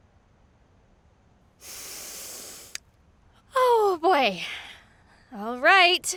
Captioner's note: deep inhale